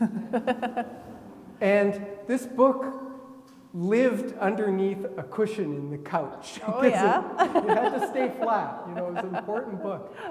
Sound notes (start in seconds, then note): 0.0 laughing; 6.9 laughs